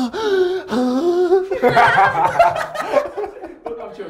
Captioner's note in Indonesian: Tertawa